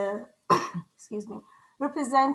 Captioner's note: clearing throat